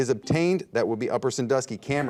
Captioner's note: buzzer dings